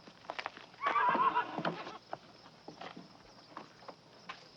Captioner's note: Danny whinnying